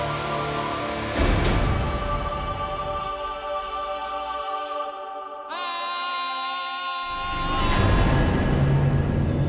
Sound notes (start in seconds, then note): 5.5 battle cry